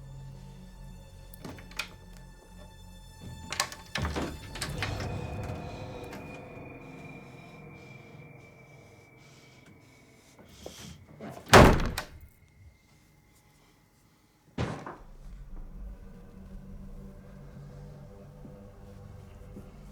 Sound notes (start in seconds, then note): 1.6 key clanking; 10.6 door slamming; 14.6 item thudding